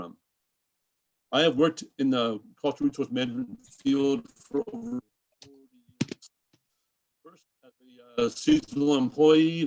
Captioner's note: distorted mic